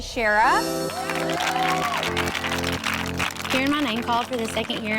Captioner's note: all cheering